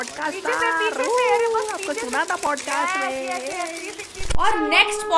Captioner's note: camera clicks